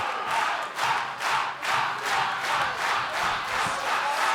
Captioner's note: crowd chanting